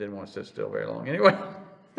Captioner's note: laughs